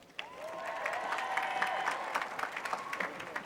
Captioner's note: applause